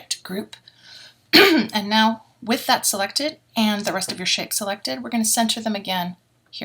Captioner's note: cough